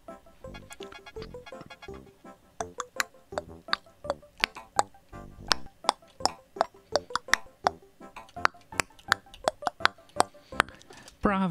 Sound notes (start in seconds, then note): 2.6 making clopping noise with her mouth, to the tune of the song